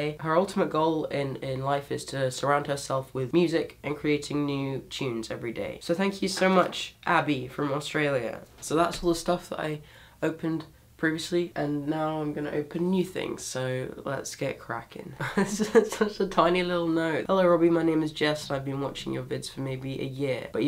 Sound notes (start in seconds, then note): 15.2 laughs